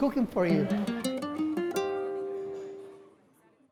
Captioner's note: customers chattering; light music